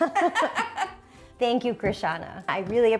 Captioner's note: both laughing